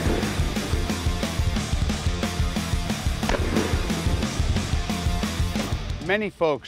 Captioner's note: gunshots